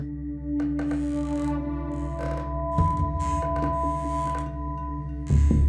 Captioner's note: creaking